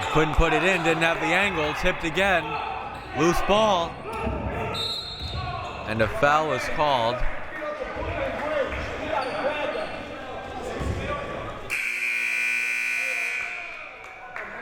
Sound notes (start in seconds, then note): 4.8 whistle; 11.7 buzzer